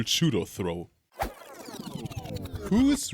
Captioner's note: record Scratch